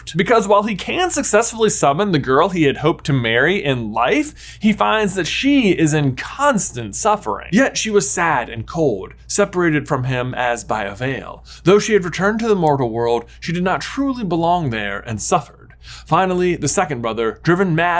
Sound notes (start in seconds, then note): none